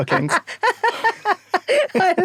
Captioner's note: both laugh